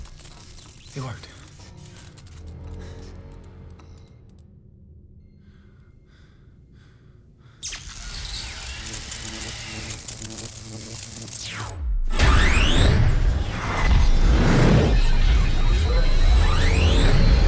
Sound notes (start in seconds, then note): 7.6 electricity crackling; 12.2 electronics whirring; 12.2 power clicks on